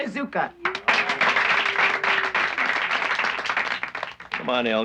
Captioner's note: applauding